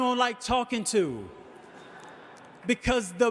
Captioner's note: audience laughing